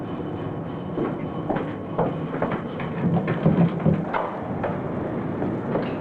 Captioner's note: sound of footsteps